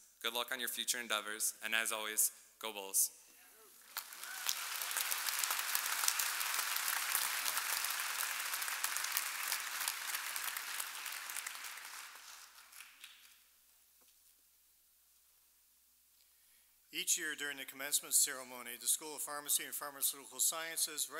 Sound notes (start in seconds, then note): 3.8 audience applauding and cheering